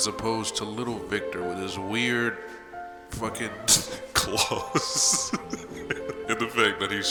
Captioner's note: laughs